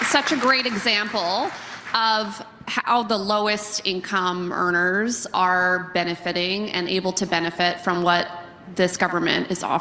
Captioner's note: applause